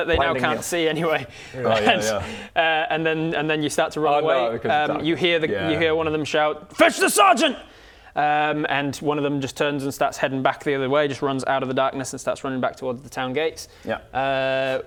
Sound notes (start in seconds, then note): none